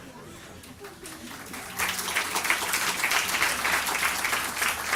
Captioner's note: audience applause